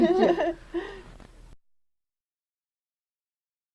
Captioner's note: laughter